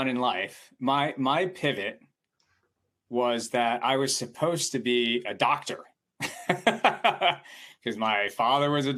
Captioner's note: chuckles